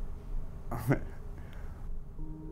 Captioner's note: laughs